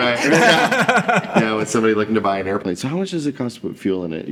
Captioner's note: laughing